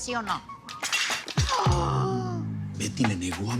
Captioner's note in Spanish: Grito ahogado